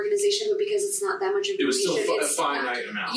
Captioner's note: murmur